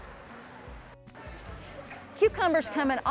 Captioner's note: people chattering